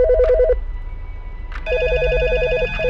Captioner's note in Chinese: 電話響鈴聲; 電話接起聲